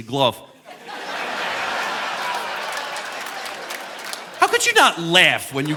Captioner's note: audience laughing